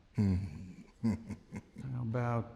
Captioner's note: chuckling